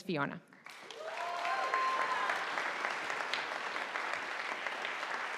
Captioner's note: audience applauding